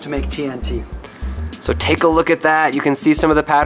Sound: voiceover

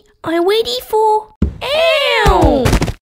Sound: bump!

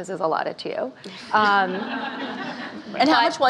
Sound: laughing

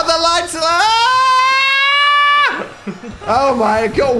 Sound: screams

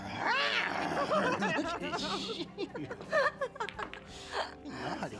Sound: laughing; meowing

